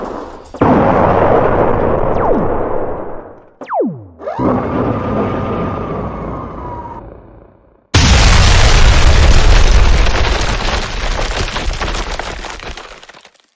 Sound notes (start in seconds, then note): 0.6 explosions booming; 0.6 lasers blasting; 7.9 explosion booming